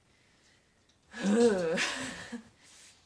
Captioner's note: disgruntled ugh sound